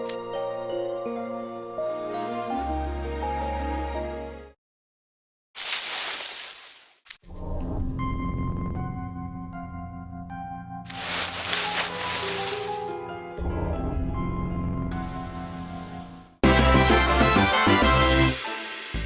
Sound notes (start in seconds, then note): 5.6 rustle